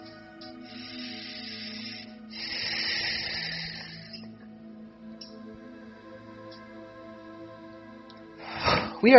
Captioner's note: deep breathing